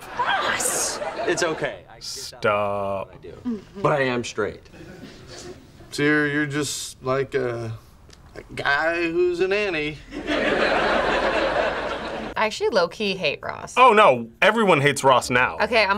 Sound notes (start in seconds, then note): 10.1 audience laughs